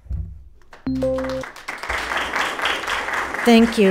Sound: attendees applauding

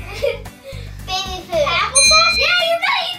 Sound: ding

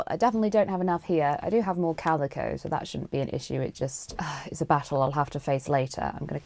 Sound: sighs

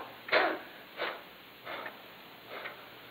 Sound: coughing and panting

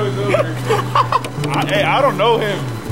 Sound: laughs

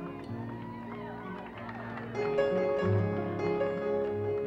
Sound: crowd cheering

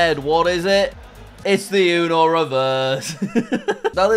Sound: laughs

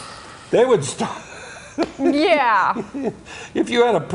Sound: laughter

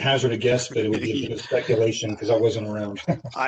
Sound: laughter

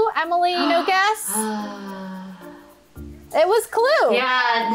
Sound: gasps

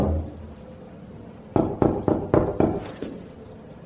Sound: three knocks on a wall; five knocks on a wall

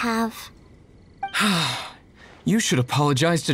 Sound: sigh

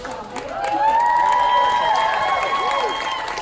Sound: audience cheers

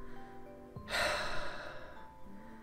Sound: sigh

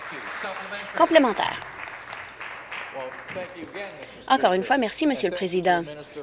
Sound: applause

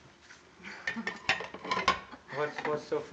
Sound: chuckles

